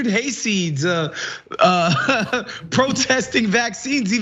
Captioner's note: laugh